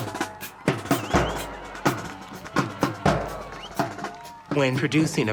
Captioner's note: drum music; cheering